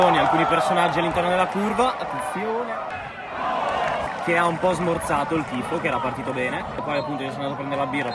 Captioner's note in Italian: Applauso